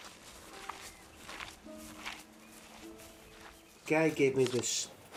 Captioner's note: mud squishing